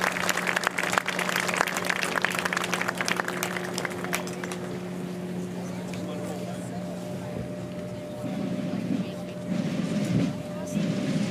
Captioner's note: applause